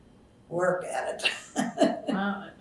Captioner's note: laughs